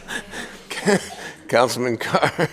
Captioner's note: laughing